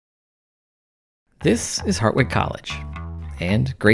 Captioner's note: male Voice